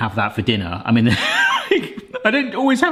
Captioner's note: laughs